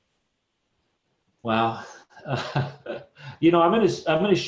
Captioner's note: chuckles